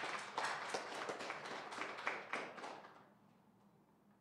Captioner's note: applause